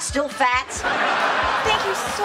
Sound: laughing

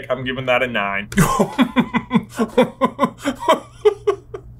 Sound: laughs

